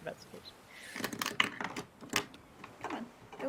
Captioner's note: dice thudding